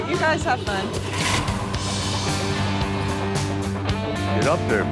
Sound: rock music; car revving

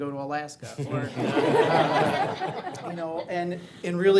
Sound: audience laughs

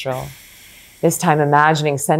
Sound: exhales gently

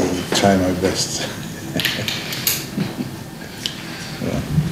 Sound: laughs

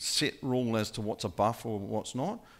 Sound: none

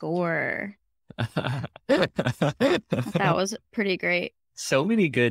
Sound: laughing

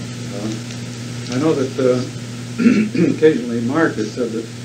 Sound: clears throat

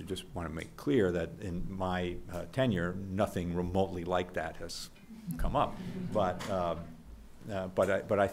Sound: background laughter

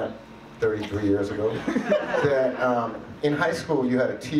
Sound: audience laughs

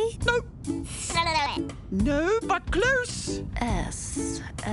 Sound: babbles

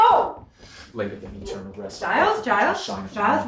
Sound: Giles mumbles prayers

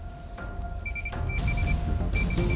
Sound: beeping

